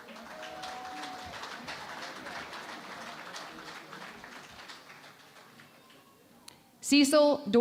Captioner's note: applause